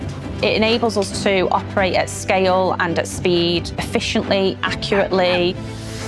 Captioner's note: not speaking english